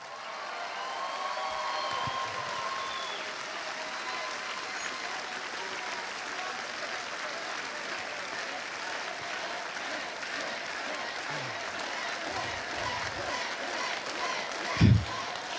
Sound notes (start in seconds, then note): 4.2 cheers and applause